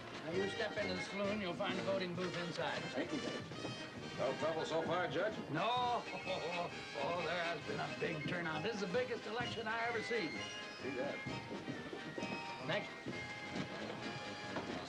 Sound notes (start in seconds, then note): 5.9 chuckling